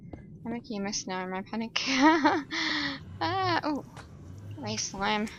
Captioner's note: laughs